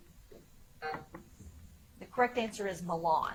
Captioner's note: buzzer tones